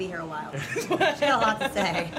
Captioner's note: laughter